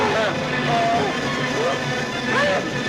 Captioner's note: dramatic music; screaming; dramatic music